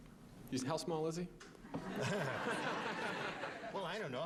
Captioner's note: laughing